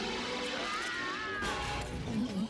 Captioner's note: snarls